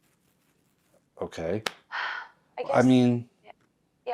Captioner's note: Georgia sighs